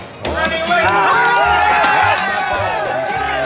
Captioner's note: men shouting